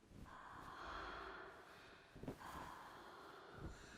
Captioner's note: rhythmic deep breaths